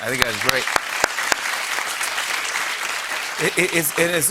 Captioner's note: applause